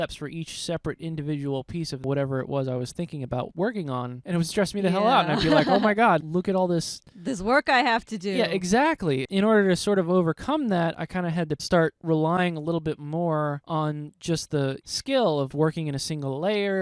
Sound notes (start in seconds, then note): 5.0 laughing